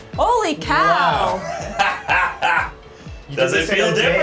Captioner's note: laughs